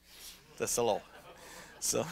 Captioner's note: laughter